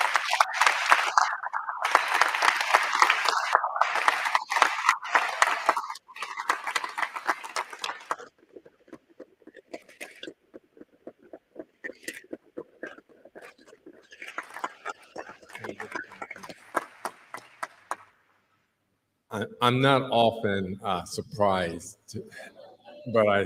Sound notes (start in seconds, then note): 3.6 applause